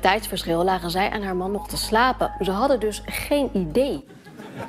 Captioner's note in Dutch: gelach